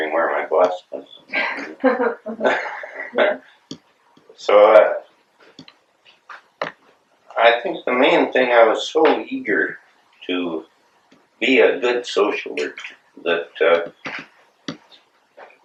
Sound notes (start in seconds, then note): 1.4 laughter